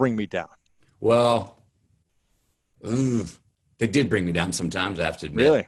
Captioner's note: groans